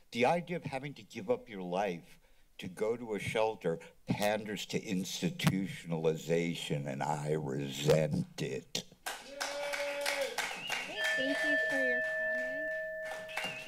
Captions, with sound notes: The idea of having to give up your life to go to a shelter panders to institutionalization and I resent it [applause] [alarm sound] - Thank you, Sir, for your comment.